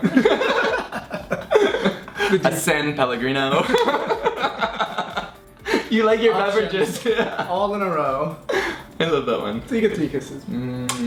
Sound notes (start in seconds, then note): 0.0 laughing